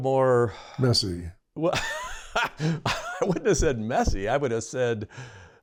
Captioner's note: laughter